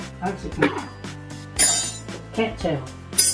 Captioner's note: clink